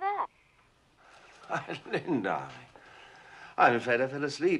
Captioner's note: chuckling